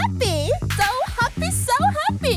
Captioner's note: in a very excited voice